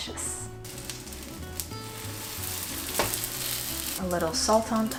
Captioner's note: dough sizzling